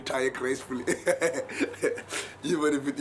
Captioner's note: laughs